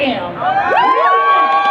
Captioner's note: crowd cheers